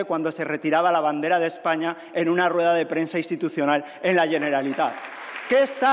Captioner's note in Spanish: Aplausos